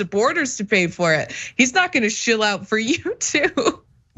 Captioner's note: laugh